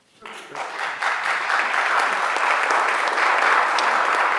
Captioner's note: audience applauds